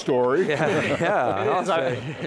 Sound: giggles

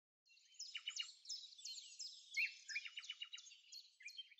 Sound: birds tweeting

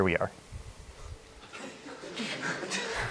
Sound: laughter

